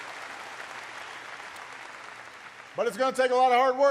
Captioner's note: applause